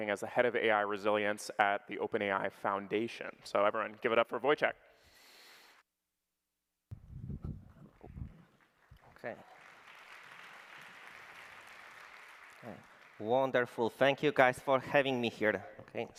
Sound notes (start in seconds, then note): 9.6 applause